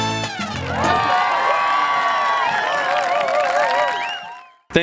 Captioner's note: crowd cheering